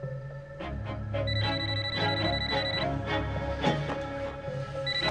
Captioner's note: phone ringing